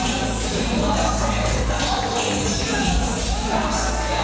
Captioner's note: crowd cheering